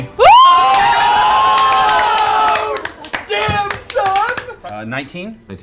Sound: yelling

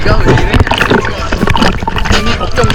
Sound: the waves crashing relentlessly

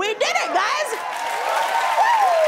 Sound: cheering and applause

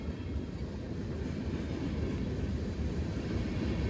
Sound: none

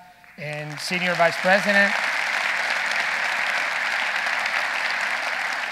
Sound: audience applauding

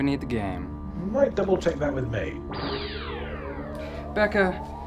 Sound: voiceover

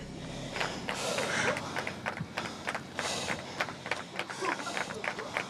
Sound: group clapping

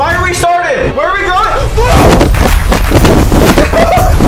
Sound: yells; chuckles

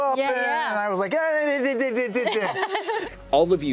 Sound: adament shushing noises; laughter

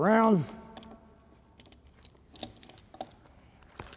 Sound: jangling

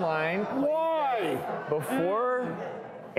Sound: audience oohs

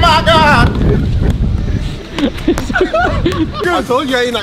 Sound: men laughing

